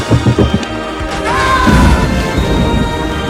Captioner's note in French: Explosion